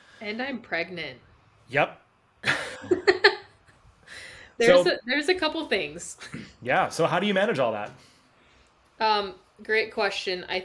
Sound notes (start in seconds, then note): 2.4 both chuckles